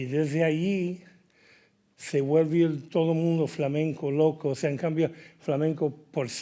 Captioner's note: speaking in Spanish